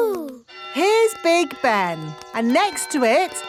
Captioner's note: clock chimes